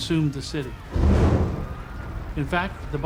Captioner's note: roaring flames